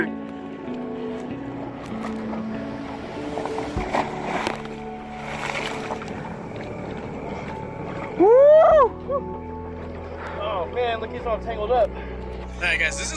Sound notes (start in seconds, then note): 4.4 water splashes; 8.3 man cheering